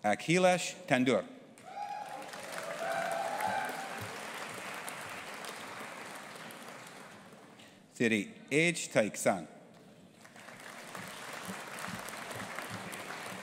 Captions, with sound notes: Akhilesh Tandur. (AUDIENCE APPLAUDING AND CHEERING) Thiri Htike San. (AUDIENCE APPLAUDING)